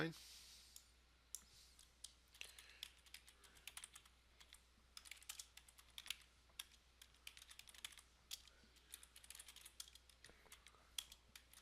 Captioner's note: sound of typing